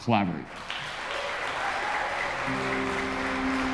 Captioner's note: audience applauding; gentle music